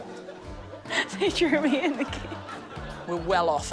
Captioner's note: laughs